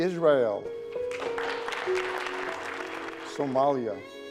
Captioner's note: clapping